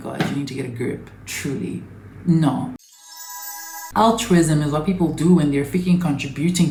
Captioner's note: heavenly sound, back to topic